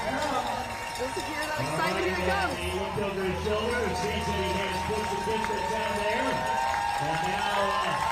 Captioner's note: cheering